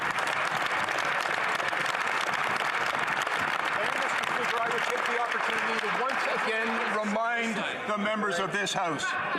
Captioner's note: some Applause